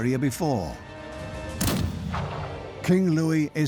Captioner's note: rifle shot